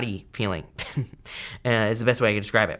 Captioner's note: chuckles